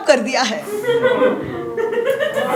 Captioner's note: gag